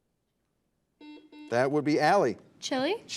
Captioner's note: buzzer buzzes